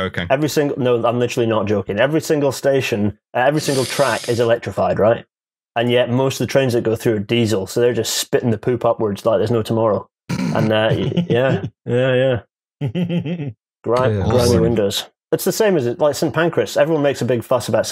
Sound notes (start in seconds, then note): 10.7 snorts; 13.2 laughs